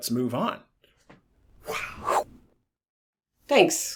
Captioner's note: makes throwing and catching sounds